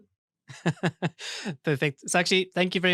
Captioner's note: laughs